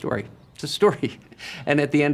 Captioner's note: chuckles